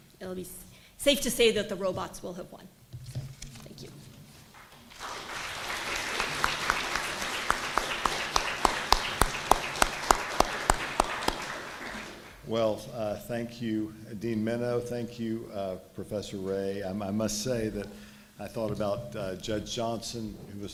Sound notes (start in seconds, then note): 4.5 applause